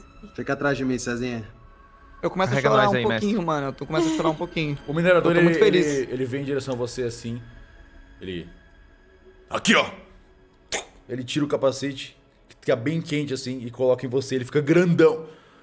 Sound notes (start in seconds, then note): 10.7 poof